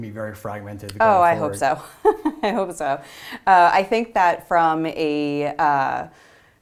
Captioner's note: laugh